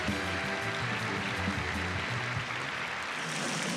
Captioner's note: applause continues; drumroll playing